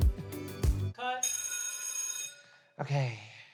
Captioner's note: bell rings